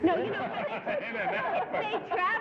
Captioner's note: laughter